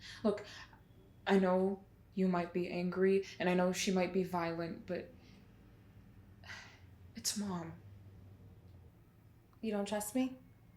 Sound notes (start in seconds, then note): 6.4 sighs